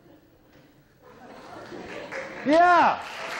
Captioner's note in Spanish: aplausos